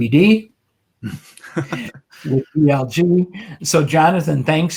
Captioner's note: laughs